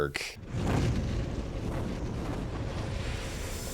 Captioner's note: swooshing